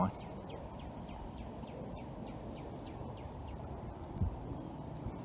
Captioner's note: birds chirping